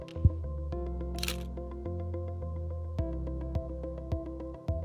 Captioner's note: microphone thuds; camera shutter clicks; gentle upbeat music